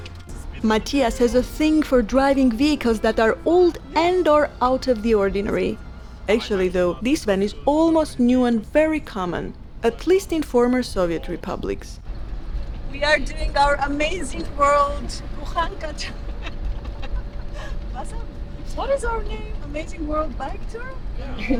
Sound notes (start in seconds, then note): 15.2 laughs